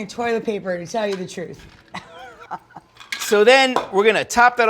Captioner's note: laughs